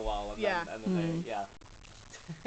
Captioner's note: laughs